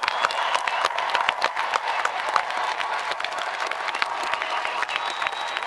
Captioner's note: audience applauding and cheering